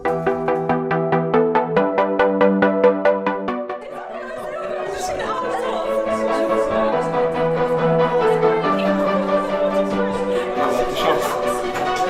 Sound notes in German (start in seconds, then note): 4.6 Durcheinander Reden und Lachen